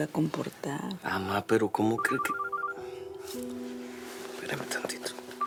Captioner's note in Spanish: Suena el celular